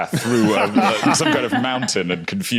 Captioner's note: laugh